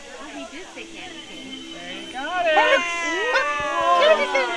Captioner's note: magical sound as Hogwarts crest changes to 2 crossed candy canes